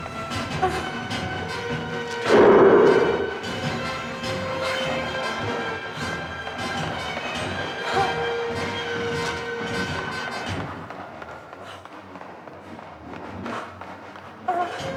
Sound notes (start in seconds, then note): 2.2 dramatic music; 2.2 Donald growling